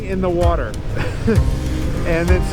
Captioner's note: laughs